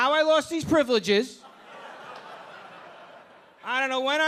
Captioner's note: audience laughing